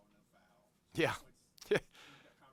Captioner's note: laughs